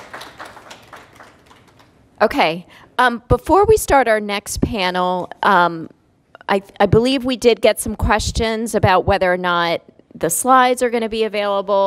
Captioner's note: applause